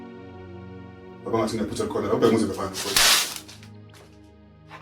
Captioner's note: slap